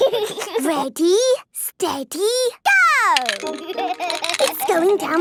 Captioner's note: snorting and giggling; laughing